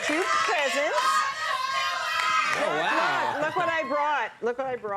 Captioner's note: yelling